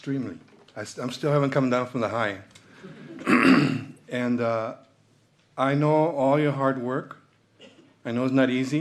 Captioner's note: clears throat and cough; clears throat